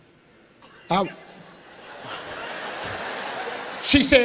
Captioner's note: laughing